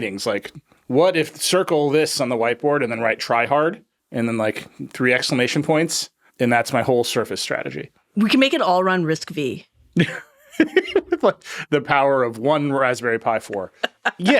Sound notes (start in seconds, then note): 9.9 laughing; 13.6 laughing